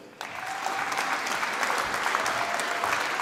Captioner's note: applause